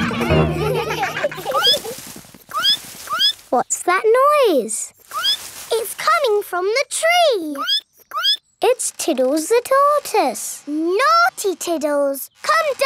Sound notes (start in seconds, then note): 0.0 all laughing; 2.1 squeaking; 5.3 squeak; 8.1 squeaking